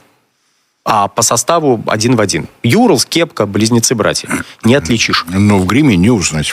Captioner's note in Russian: откашливается